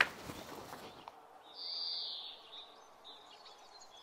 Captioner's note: birds chirping